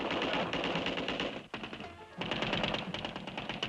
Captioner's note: rapid gunfire